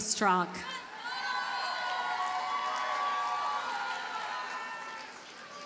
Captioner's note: audience cheers and applauds